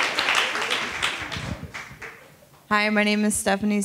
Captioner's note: attendees applauding